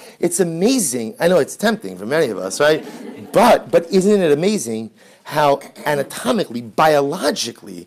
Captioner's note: background laughter